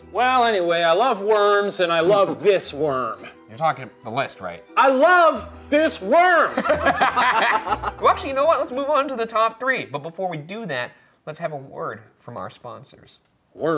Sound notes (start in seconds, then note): 5.0 yelling; 6.4 laughing